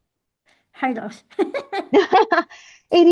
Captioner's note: both laugh